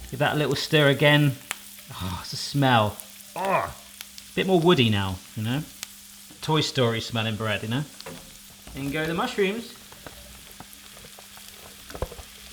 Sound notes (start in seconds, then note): 3.3 groans; 10.5 sizzling; 12.3 tapping